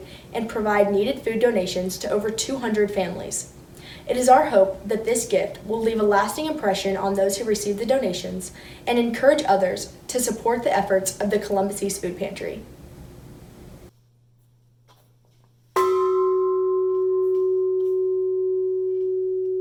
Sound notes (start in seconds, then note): 15.8 bell ringing